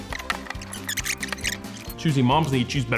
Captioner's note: squeaking